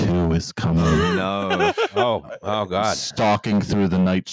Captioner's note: laughs